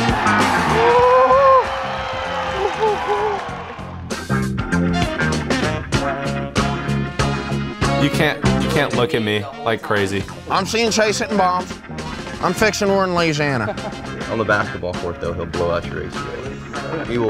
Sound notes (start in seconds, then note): 0.0 cheering